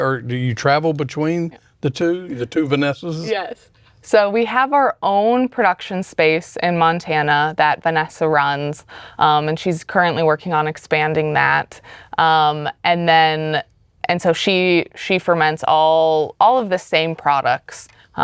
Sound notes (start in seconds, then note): 3.6 chuckles